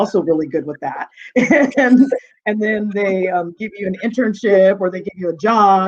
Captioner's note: chuckling